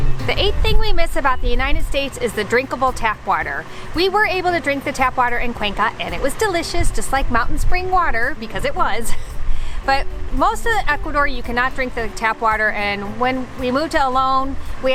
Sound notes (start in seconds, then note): 0.0 chill strumming music; 9.0 chuckles